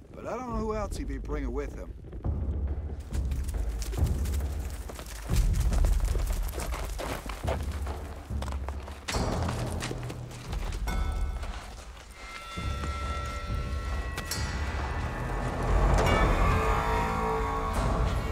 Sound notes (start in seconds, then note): 2.8 drum beats, galloping; 9.4 loud clanking, drum beats; 14.4 thunderous drum roll